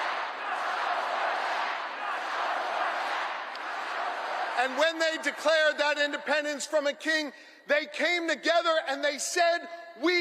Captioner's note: crowd chanting